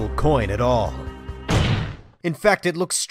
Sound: slam

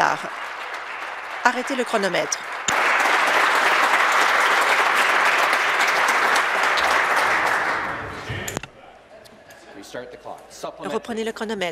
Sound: applause

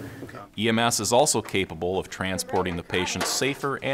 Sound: voiceover

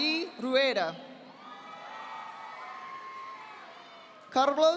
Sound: audience applauding

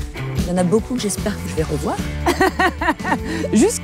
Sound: she laughs

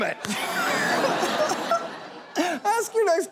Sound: laughter

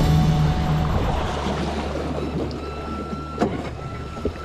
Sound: water sloshing

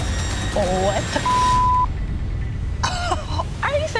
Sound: beep; chuckles

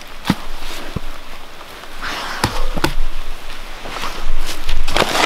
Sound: rain pattering

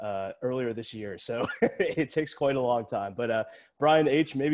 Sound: laughs

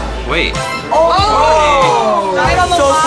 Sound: crowd whoa's

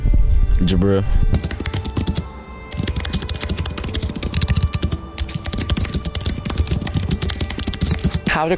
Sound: typing sound effect

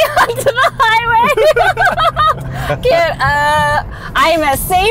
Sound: laughing

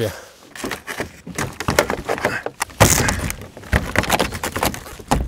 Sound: tapping panels

